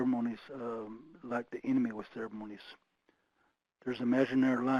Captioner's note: speaking foreign language